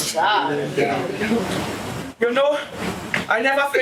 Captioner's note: none